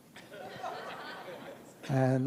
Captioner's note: audience laughs